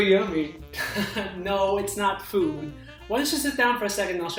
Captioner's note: laughs